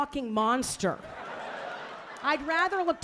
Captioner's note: audience laughing